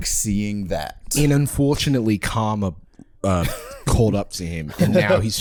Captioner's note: Australian accent